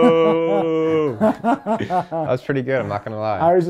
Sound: laughing

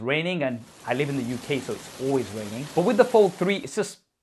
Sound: rain pouring

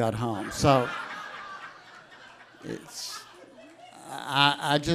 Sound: audience laughs

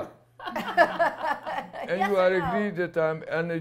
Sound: laughter

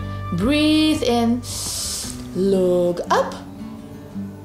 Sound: breathes in deeply

